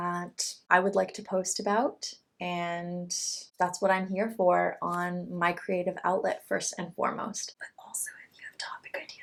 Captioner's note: whispers